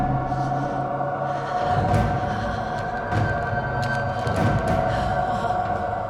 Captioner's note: Elaine shivers and moans; dark intense music